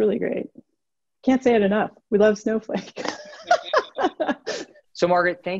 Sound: laughs

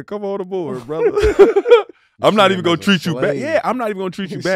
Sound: group laughs

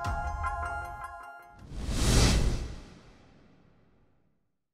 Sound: electronic whoosh

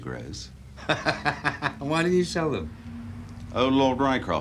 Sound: laughs

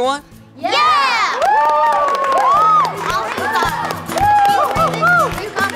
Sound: cheers and applause

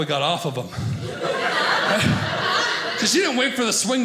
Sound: audience laughing

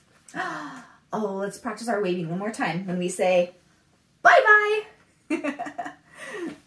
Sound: gasp; laughs

